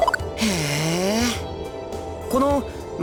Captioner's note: interested hum